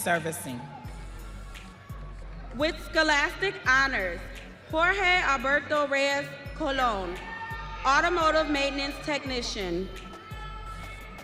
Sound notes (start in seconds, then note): 1.8 audience cheering